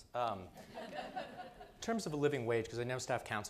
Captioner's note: audience laughing